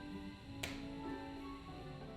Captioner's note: gentle bright music; boning snipping; gentle bright music